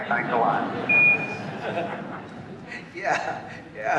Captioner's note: laughter